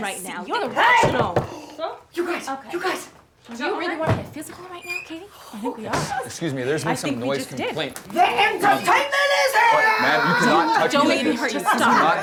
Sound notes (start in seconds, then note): 1.2 knocking on door